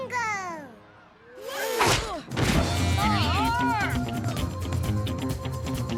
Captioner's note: boy grunts; upbeat music